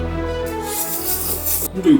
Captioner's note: eating sound